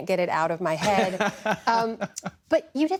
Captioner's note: laughter